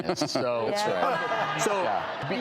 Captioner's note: audience laughs